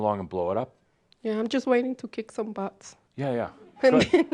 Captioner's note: she chuckles